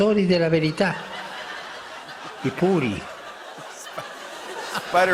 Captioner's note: laughter